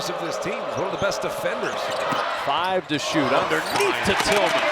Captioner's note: voice fades